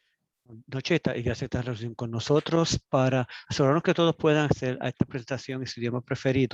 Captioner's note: speaking Spanish